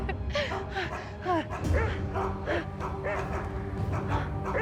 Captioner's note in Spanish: sollozos